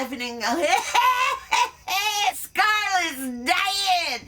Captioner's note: laughs